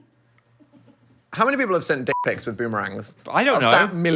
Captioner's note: beep